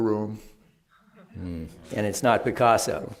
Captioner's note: laughter